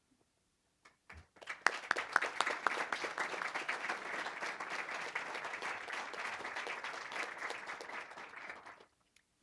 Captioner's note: applause